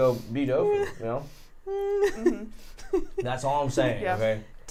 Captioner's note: laughing